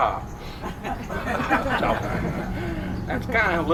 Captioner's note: crowd laughs